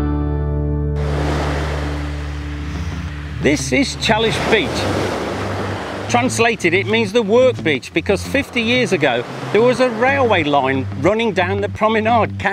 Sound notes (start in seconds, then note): 5.0 waves surging